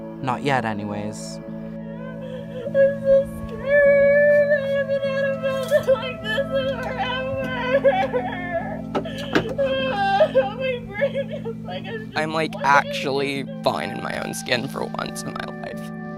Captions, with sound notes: not yet, anyways [crying] I'm so scared I haven't felt like this in forever [sobbing] I'm like actually fine in my own skin for once in my life